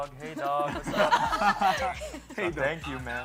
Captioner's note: laughter